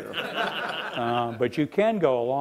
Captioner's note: laughing